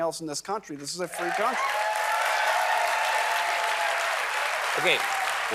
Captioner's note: applause